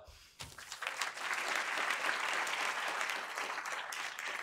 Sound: audience applauds

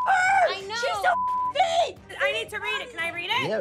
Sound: beep

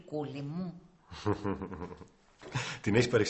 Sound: nikos chuckles

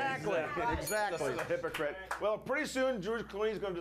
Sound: bell rings

